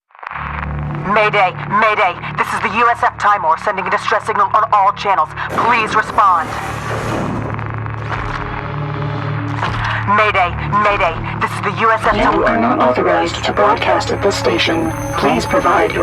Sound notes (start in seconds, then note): 9.2 explosion